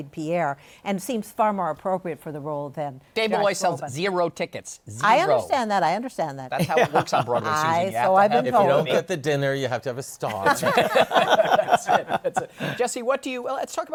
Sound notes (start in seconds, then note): 10.3 laughter